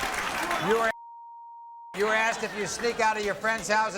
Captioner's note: beep